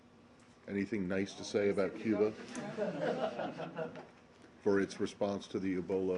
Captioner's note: laughter